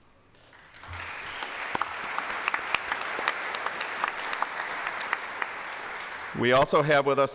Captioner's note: applause